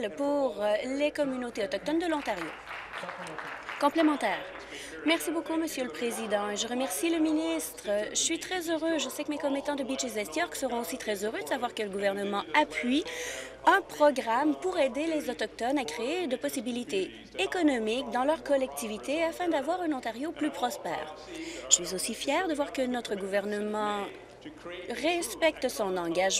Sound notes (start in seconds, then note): 5.6 applause